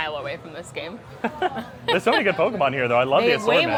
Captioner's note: laughs